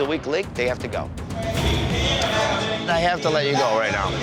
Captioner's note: chatter